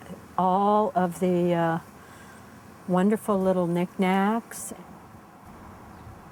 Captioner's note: none